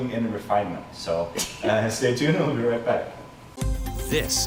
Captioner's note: laughing